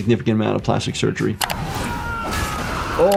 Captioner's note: screen clicking; characters shouting